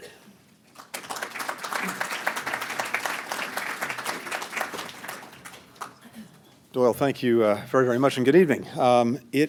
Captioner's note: applause